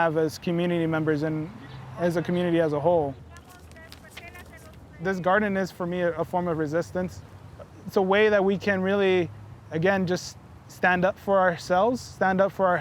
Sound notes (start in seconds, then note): none